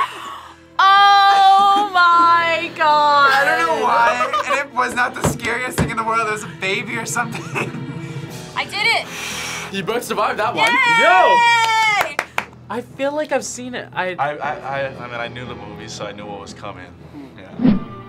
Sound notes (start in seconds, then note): 7.3 laughs; 9.0 sighs